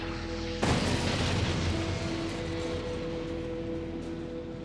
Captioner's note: vehicle crashes, explosion roars